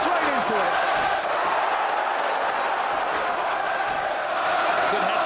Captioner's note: crowd chanting